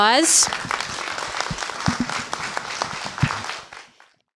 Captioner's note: applause